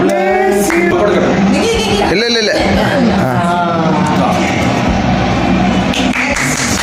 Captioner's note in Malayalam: കരഘോഷം